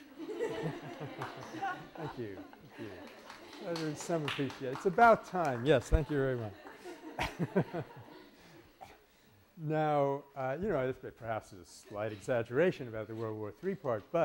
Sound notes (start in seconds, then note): 0.0 laughter and Applause; 7.9 laughter